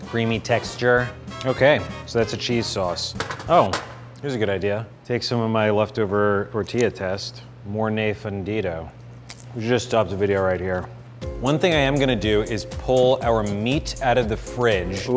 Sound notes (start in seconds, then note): 7.9 speaking foreign language